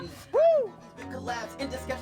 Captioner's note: cheers